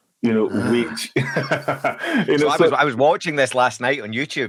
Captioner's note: speakers laughing